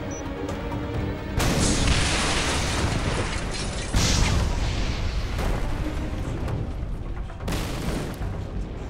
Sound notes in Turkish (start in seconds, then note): 0.0 Müzik - Gerilim; 1.4 Patlama sesi; 8.5 Alev sesi; 8.5 Müzik - Gerilim